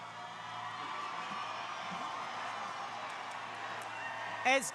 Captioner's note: crowd cheering